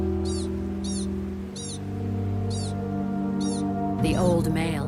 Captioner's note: dramatic music; animal squeaking